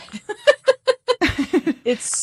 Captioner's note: both laughing